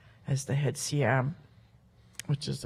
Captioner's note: speaks Halkomelem